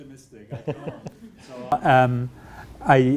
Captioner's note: chuckles